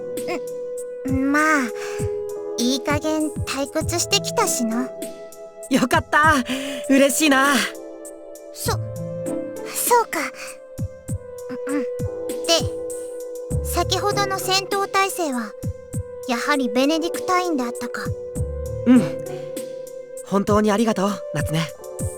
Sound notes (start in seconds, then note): 11.5 clears throat